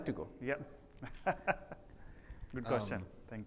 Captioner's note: laughs